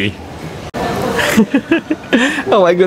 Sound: chuckles

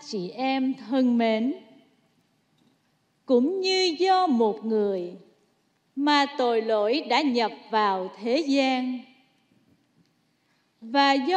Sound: speaking non-english

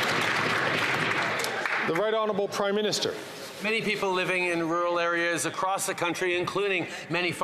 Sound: applause

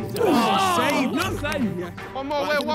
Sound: players groan

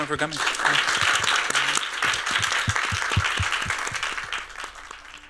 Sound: applause

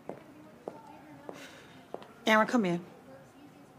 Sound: sighs

